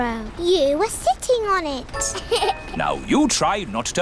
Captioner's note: laughs